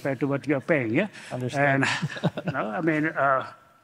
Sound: laughs

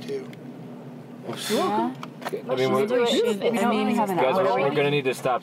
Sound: all chattering

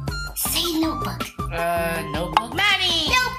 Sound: whispering; pop

